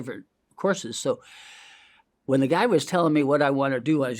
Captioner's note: inhales